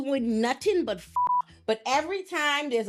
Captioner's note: beep